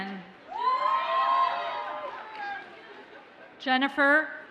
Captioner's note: audience cheers and applauds